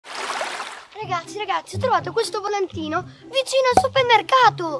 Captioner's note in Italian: Applauso